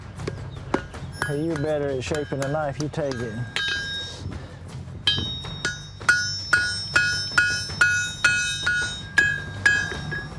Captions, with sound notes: You're better at shaping the knife. You take it. [METAL CLANGS]